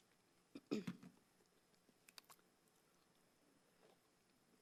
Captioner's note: clears throat